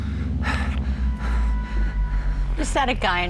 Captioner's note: heavy breathing